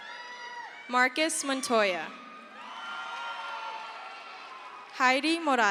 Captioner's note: crowd cheers